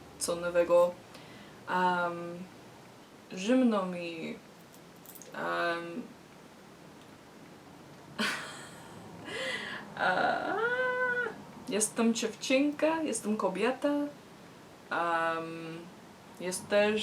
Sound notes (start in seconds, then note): 4.9 laughs in fear and shame